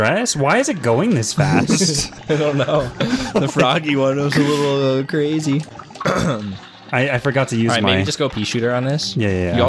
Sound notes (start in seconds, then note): 1.4 laughs